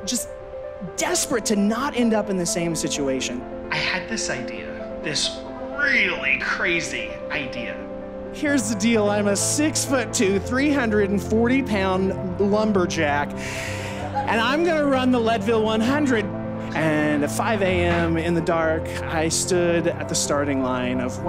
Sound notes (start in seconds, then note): 13.5 crowd laughs